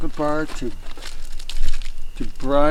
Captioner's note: wrapper crinkling